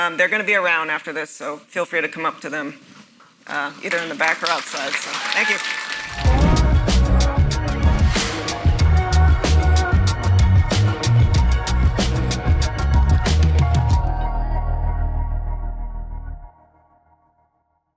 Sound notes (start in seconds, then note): 4.8 audience cheers